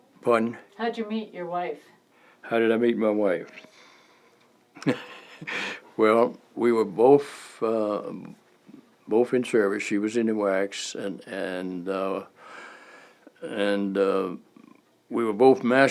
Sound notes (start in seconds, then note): 4.8 chuckle